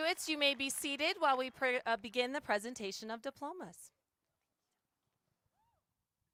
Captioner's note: applause